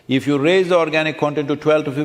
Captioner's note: none